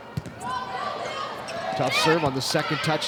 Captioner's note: ball thumping; players shouting indistinctly